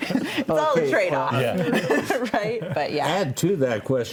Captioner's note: everybody laughs